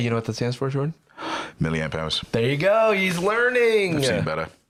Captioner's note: gasps